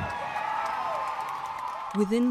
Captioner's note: applause